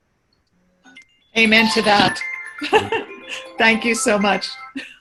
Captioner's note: timer rings in background